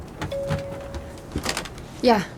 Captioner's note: phone ringing